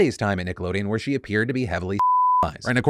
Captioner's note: beep